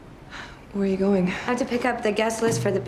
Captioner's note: sighs